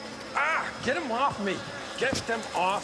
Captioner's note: bugs buzzing loudly; grunts